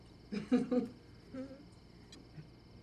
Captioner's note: chuckling